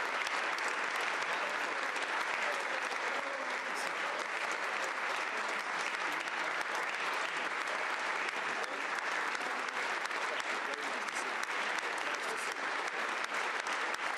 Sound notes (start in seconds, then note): 0.0 applause